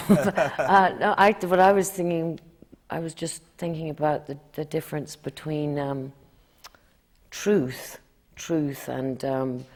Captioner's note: laughs